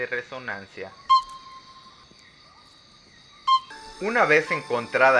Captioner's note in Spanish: Pitido de rana